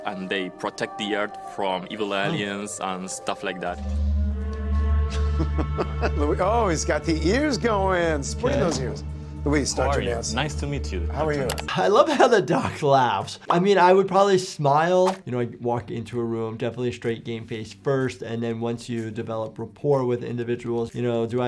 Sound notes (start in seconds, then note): 5.1 Dr. Nassif chuckling